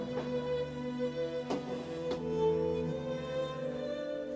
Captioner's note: echoing footsteps